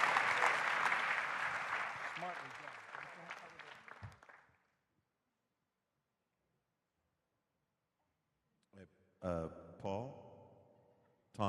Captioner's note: applause